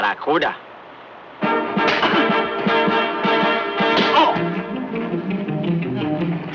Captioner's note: dramatic music; Manuel groans